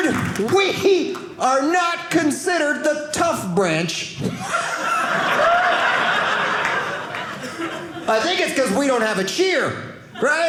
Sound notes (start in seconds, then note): 4.3 audience laughing